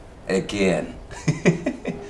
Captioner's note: laughter